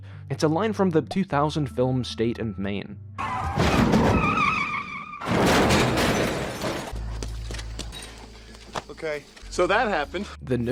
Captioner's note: car crash